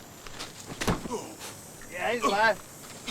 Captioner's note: Callin moans